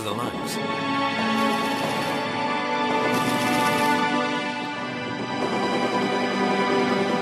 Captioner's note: sorrowful music; artillery blasts